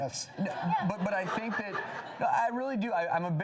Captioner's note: laughing